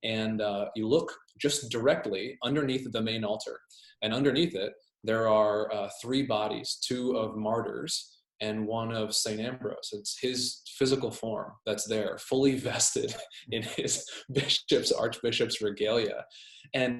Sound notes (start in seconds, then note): 13.8 laughs